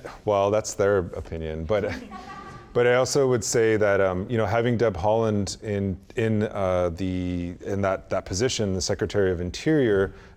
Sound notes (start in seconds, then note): 1.8 audience laughs